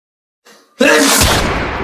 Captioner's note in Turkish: sneeze